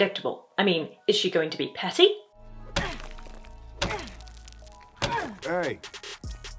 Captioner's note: thump thump thump